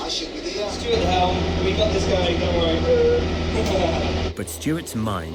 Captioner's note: laugh